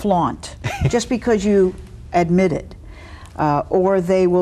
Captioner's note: laughs